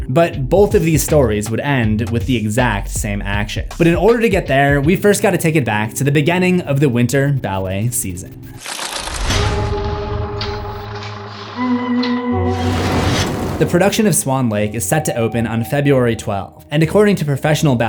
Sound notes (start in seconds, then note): 8.8 impact